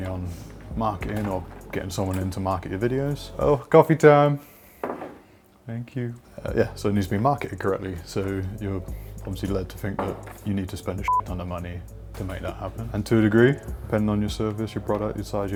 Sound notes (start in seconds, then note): 4.8 cup thudding; 11.0 beep